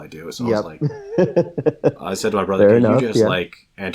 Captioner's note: laughs